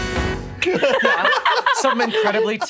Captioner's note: laughing